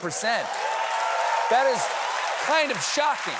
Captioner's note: applause